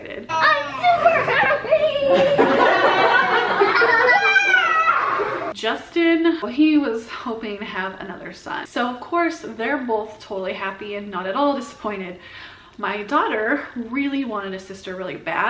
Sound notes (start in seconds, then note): 0.9 everyone laughs; 3.4 people laughing